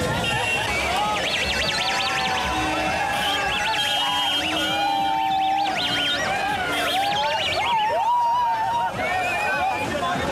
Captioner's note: shouts, cheers and car horns